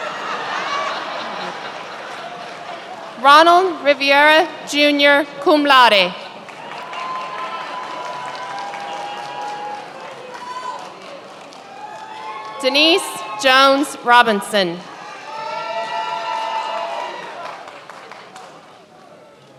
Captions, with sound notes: (many laughing) Ronald Riviera Jr., cum laude. (many applauding) Denise Jones Robinson. (many applauding)